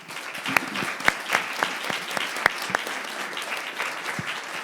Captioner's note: people clapping